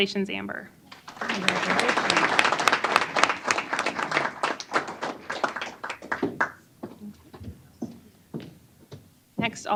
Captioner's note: applause